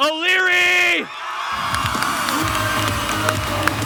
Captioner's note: the audience erupts in cheers